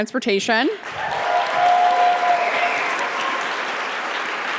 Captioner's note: audience applauding